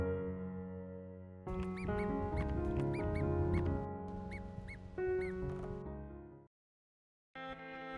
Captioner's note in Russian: писк